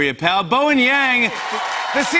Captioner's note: cheers and applause